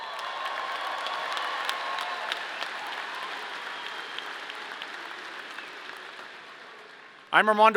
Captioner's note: audience cheering; audience applauding